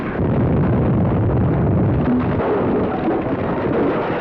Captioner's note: explosion